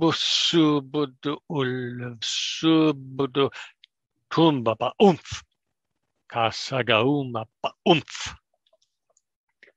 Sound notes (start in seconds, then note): 4.9 speaks German